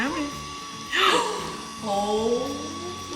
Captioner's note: all gasping